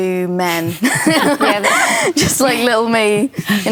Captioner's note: laughter